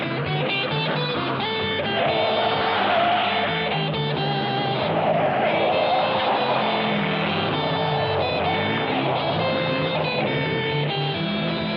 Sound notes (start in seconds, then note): 1.8 tires screeching